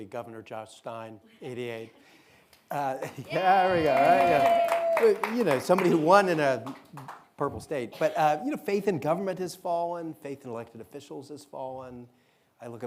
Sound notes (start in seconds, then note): 3.2 audience cheering